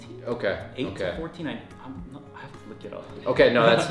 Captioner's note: chuckling